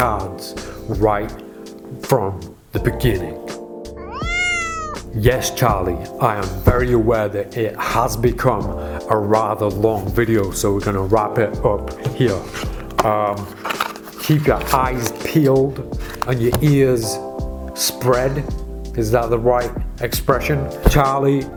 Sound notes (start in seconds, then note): 4.0 cat meows